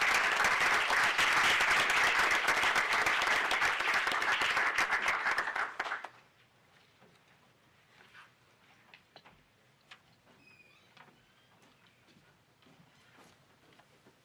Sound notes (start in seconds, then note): 0.0 applause